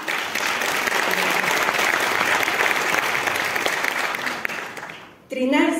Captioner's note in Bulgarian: аплодисменти